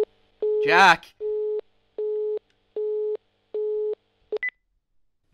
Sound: phone beeps

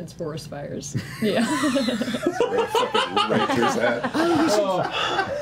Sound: laughter

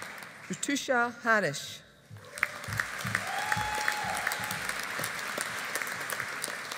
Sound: audience applauding

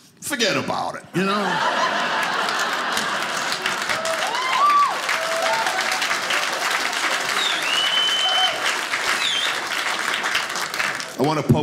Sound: audience clapping

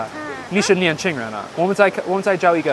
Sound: Mandarin

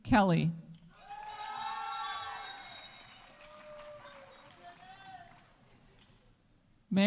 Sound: audience cheering; audience applauding

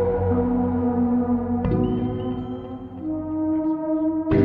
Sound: mobile bleeps - "message"

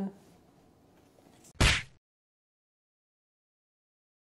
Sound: slap

